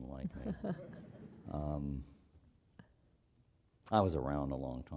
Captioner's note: laugh